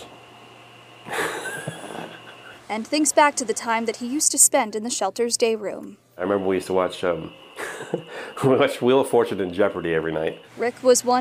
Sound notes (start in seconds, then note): 7.4 laugh